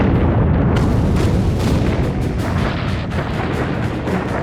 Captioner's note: bombs explode